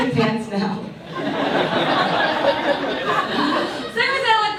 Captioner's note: audience laughs